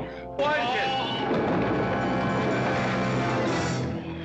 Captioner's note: tumbling down stairs